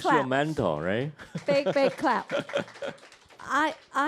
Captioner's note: audience applause